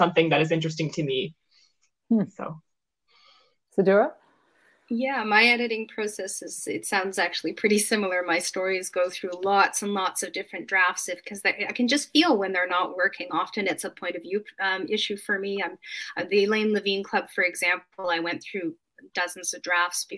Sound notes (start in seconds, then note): none